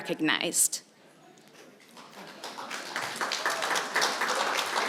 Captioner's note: applause